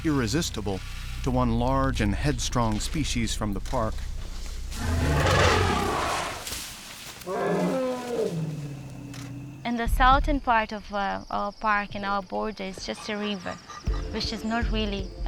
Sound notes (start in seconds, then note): 4.4 rumbling and trumpeting softly